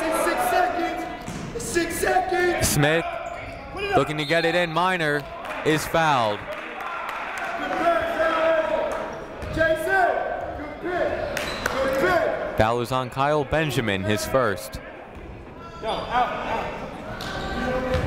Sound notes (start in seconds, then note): 3.3 whistle blowing; 6.3 clapping; 8.5 shouting